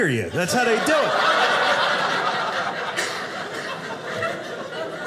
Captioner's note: audience laughing